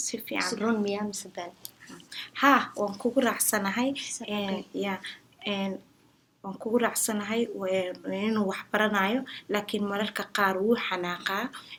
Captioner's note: speaks in Somali